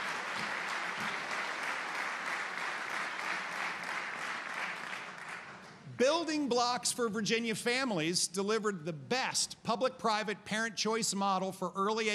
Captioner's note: applause